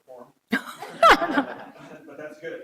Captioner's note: all laughing